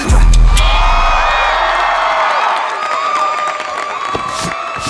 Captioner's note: audience cheering